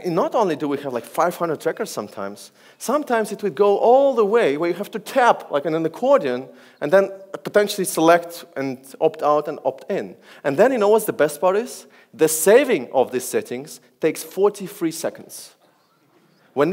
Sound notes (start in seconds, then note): none